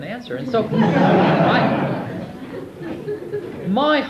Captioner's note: audience laughs